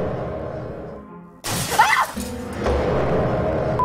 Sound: clattering noises; shrieks

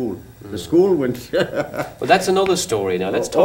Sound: laughter

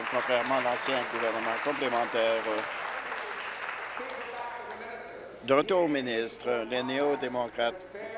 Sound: applause

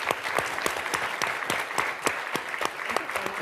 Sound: audience applauds

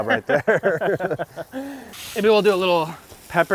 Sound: all laugh

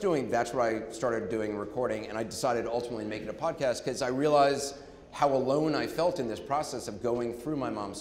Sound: none

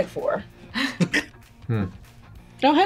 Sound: laughs

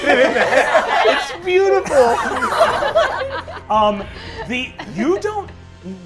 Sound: all laughing

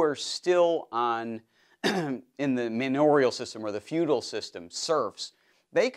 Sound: cough

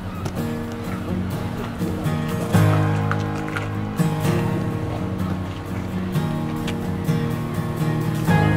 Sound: sound of birds

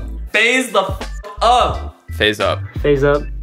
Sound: beep

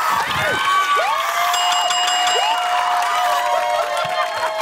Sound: ding!

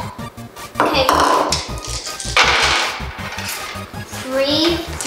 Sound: dice rolling

